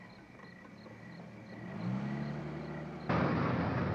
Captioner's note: car approaching